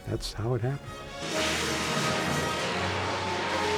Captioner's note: tires screeching